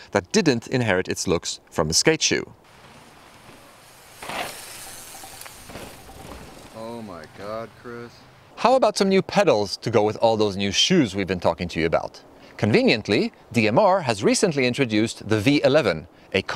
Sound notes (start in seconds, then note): 6.9 voiceover